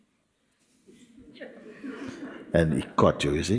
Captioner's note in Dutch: gelach